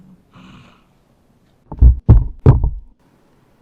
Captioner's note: thud ,thud, thud